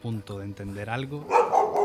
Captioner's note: barking